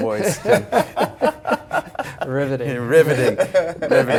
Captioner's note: laughter